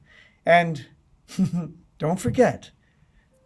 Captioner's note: chuckling